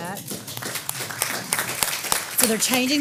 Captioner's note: applause